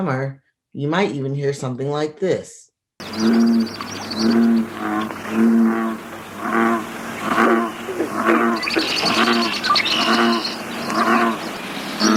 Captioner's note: bullfrog sound